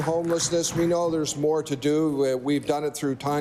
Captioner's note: applause